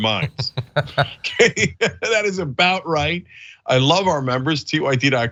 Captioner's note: laugh